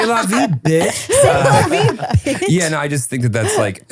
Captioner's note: laughing